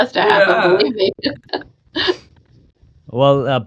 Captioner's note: laughing